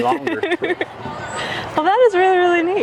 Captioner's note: laughs